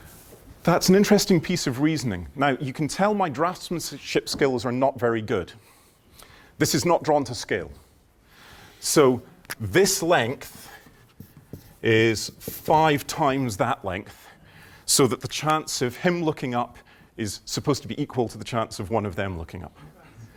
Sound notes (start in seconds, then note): none